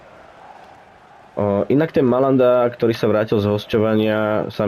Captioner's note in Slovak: Potlesk